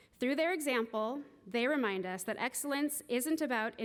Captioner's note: none